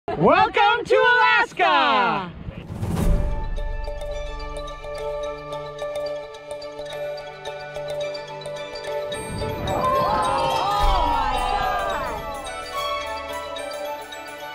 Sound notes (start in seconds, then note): 2.7 gentle music; 9.7 gasping crowd